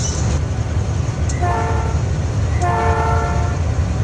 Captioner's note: train horn blowing